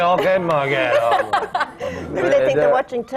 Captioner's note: laughter